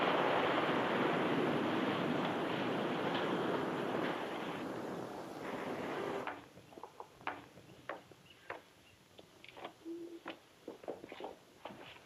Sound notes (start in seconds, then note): 6.3 birds chirp; 6.8 heels clack